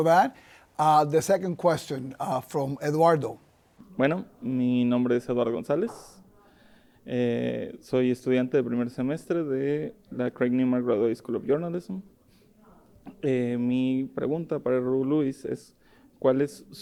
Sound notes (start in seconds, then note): 5.2 speaking in foreign language